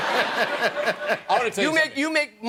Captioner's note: laughter